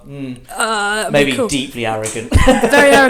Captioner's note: laughs